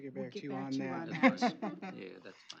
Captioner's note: laughs